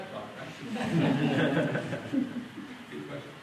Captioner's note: laughter